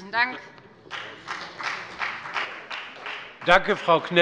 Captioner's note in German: Beifall bei der FDP